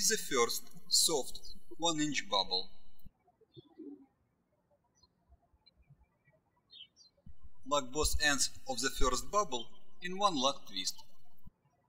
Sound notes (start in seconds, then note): 0.0 birds chirping